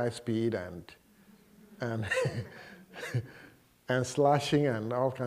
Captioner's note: laughter